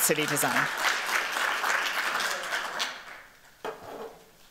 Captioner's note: applause